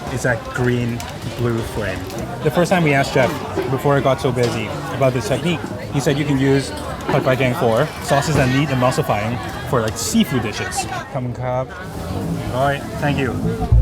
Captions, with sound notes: is that green-blue frame. The first time we asked chef before it got so busy about this technique, he said, you can use pad fai dang for sauces that need emulsifying for like seafood dishes. [host speaking in foreign language] All right, thank you.